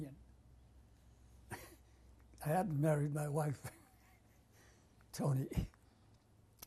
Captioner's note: laughs; pauses for 3 seconds